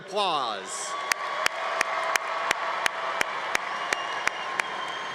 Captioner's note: congregation applauding